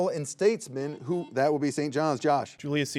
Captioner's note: buzzer beeps